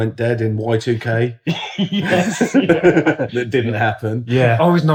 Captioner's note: laughing